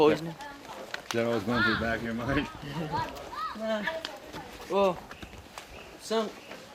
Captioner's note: laughs